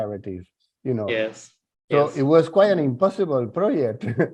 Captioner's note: laughs